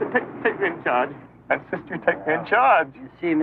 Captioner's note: tearily